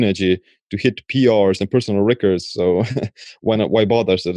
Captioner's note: chuckling